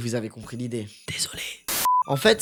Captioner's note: whispering